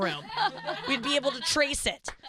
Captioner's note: laughing